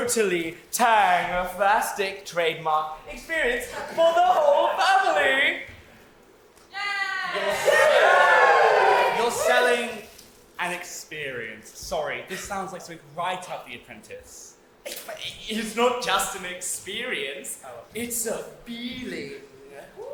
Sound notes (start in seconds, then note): 6.8 audience cheer